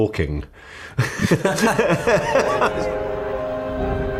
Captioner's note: both laugh